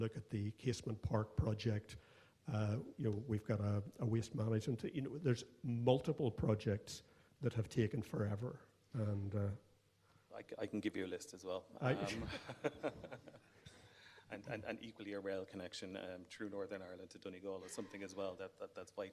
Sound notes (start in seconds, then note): 11.8 laughs